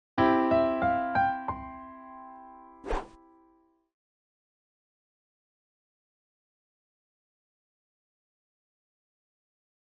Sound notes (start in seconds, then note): 0.2 piano intro playing; 2.8 swooshes